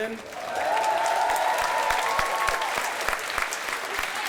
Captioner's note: applause